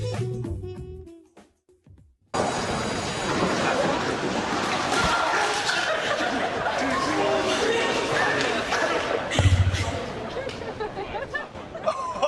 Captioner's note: laughter